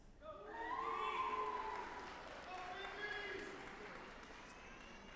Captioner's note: audience applauding